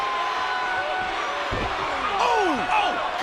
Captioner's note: crowd exclaiming